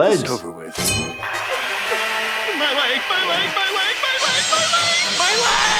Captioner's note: blade screeching; Fred screaming, soft thud; laughs